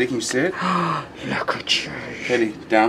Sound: gasps

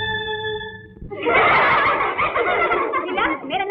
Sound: laughs

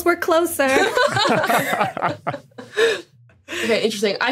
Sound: group laughing

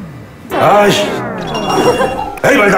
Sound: laughing

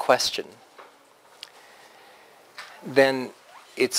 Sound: pause

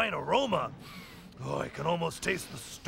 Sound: sniffs

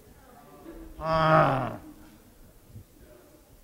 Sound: groans

